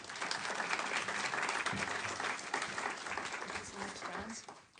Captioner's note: applause